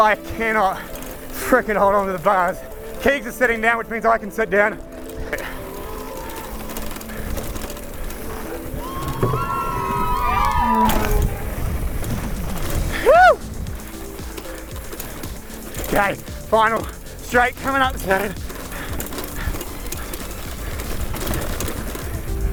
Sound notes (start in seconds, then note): 8.5 crowd cheering; 19.1 bike rattling